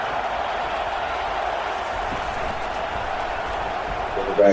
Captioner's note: crowd Noises